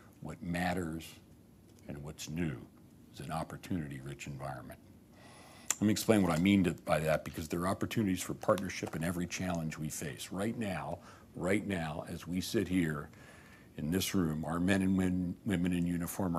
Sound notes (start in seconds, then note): none